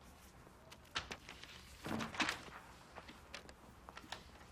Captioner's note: papers rustling